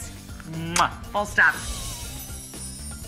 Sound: kissing sound; upbeat music

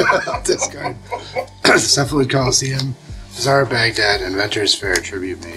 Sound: laughing

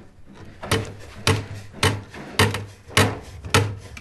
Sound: rhythmic hammering

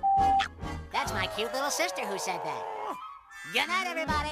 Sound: angry ranting; growls

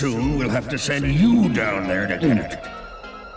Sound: gulps

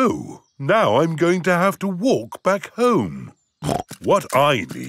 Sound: snorts

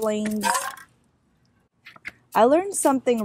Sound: rattling

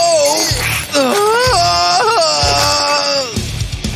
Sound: grunting

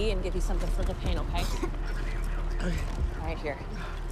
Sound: coughs

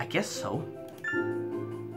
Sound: chime

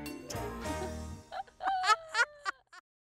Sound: laugh

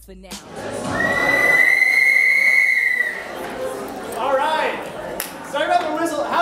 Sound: whistle

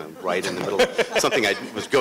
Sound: laughter

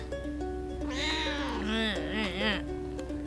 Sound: rough meow

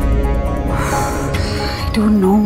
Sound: Poonam exhales

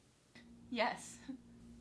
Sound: chuckling

